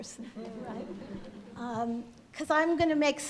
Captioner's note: crowd laughs